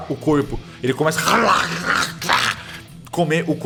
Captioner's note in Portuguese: Rosnados